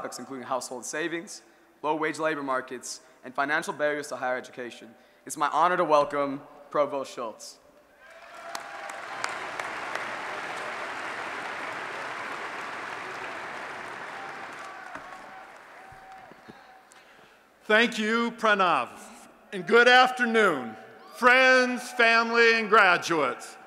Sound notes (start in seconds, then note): 8.0 applause and Cheering